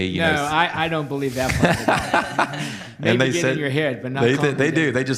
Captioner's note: laughter